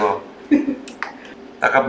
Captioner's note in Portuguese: risos